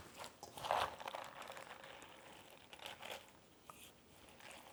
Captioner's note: kimchi squelching